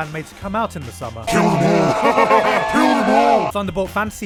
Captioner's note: demonic Voice